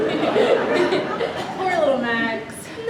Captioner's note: audience laughs